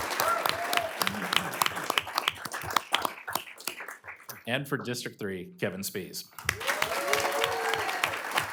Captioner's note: applause